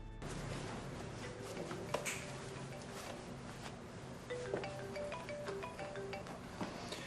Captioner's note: cellphone ringing